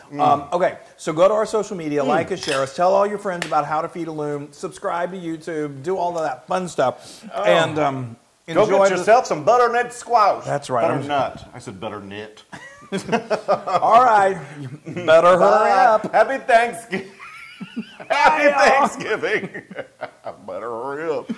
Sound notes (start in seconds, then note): 12.5 laugh